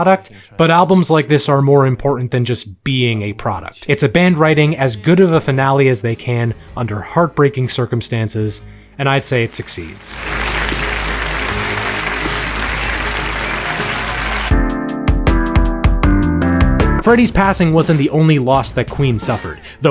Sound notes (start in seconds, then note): 9.5 audience applauding; 14.7 upbeat electronic music